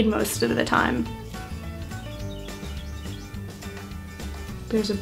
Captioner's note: bird chirping